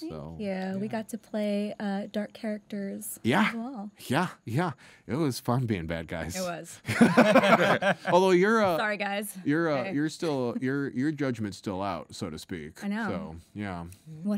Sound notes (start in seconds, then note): 6.8 laughing